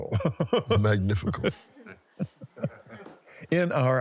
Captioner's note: laughs